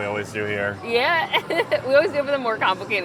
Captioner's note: laughs